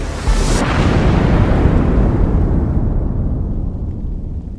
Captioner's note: thunder roaring